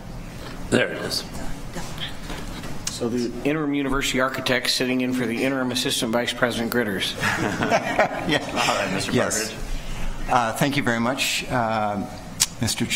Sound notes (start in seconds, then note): 7.1 people laughing